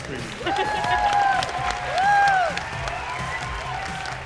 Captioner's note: applause and cheering